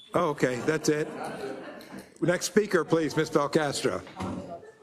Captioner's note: laugh